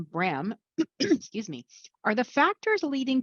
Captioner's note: clears throat